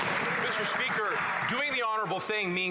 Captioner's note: some Applause